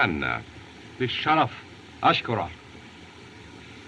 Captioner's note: speaking Native Language